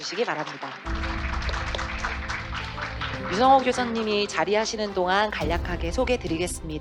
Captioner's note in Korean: 박수